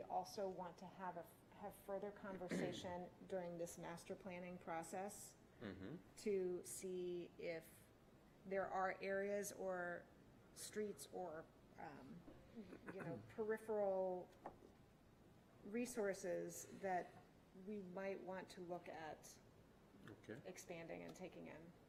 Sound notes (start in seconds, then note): 5.6 clears throat